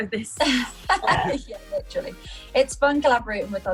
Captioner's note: laughs